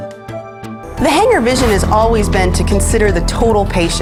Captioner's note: voiceover